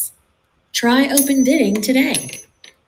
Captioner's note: coin flips and falls